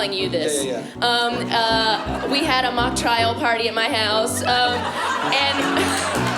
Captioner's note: laughter